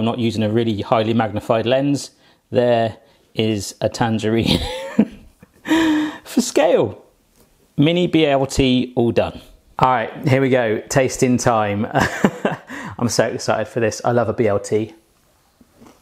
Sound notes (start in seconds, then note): 4.4 laughs; 12.0 laughs